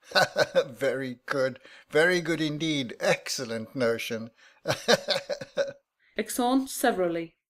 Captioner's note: they both laugh